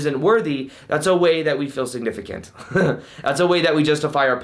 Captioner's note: laughing